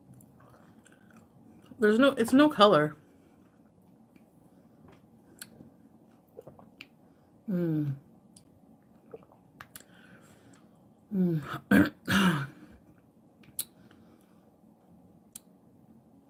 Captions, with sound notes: There's no- It's no color. (slurping) (lips smacking) Mmm.